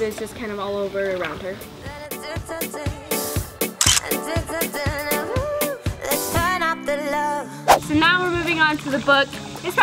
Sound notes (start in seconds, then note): 1.3 upbeat music; 3.8 camera clicking